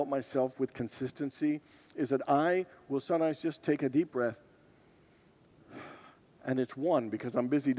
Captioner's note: breathes deeply